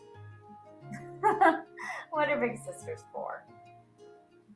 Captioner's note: laughs